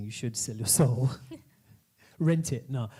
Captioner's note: laughing